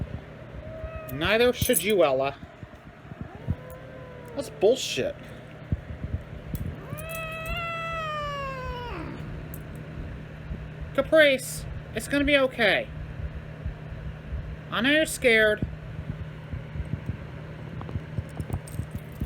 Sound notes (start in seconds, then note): 3.0 Caprice yowls; 3.0 Caprice growls; 5.6 Caprice yowls in anger